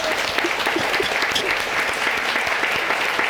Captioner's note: sobbing; applause